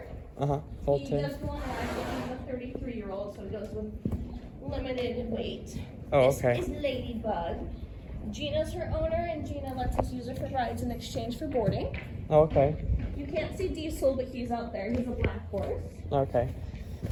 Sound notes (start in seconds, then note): none